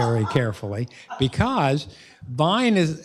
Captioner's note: laughter